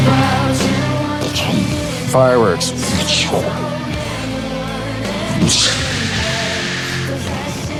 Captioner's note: imitates fireworks